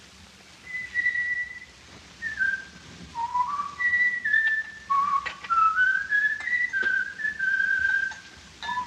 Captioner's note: whistling